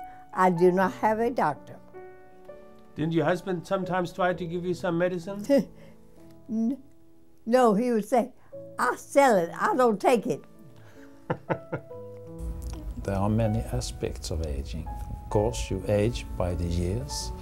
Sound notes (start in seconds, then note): 11.3 laughing